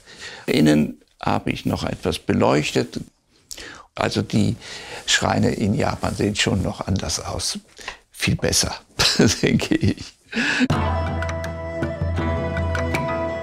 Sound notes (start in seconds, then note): 8.0 laughs; 10.6 emotional Far East music